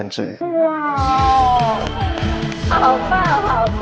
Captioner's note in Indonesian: Tertawa